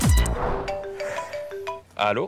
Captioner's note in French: Sonnerie de iPhone